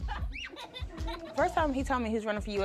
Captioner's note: chuckles